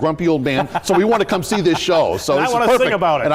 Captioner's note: laughter